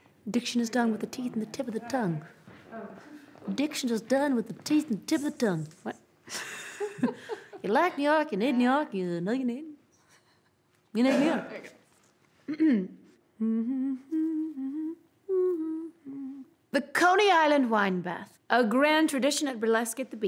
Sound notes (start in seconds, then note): 13.4 humming